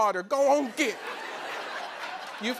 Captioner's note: laughter